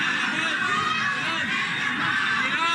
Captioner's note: people chanting repeatedly